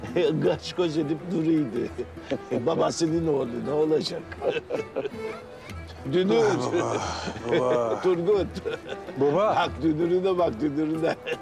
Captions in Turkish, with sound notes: …kaş göz edip duruyordu. Babasının oğlu ne olacak? [Gülüyorlar] -Dünür. -Ah baba! Baba. Turgut. -Baba! -Bak dünürüne bak, dünürüne.